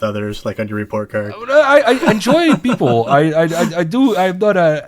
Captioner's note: laughs